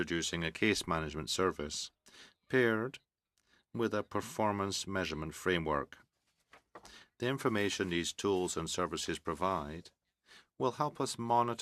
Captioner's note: speaking french